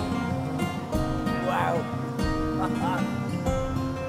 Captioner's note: upbeat music; laughs; upbeat music